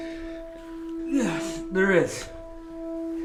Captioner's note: gasping for air